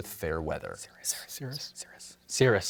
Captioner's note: whispers